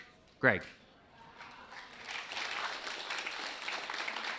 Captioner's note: applause